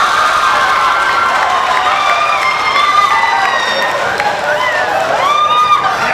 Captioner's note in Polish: Aplauz